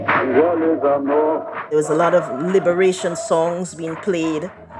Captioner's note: soundbite of cheering, singing